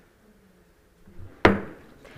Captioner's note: gavel hitting dais